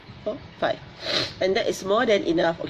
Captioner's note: sniffles